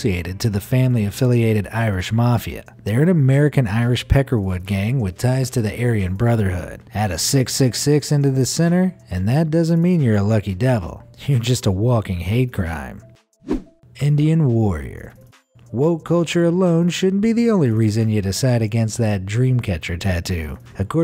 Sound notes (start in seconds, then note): 13.4 air whooshing